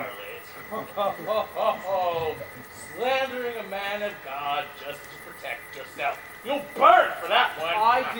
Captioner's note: laughs